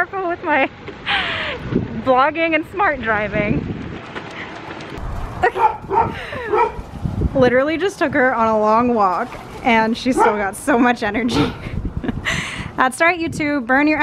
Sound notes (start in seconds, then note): 6.5 barking; 12.2 laughing